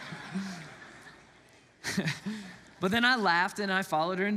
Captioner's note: laughs